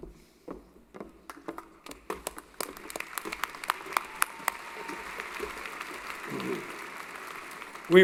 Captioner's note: applause